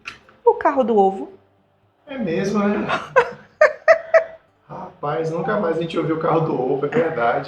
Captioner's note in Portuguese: risadas